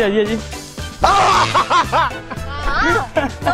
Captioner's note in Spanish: Gritos; Risas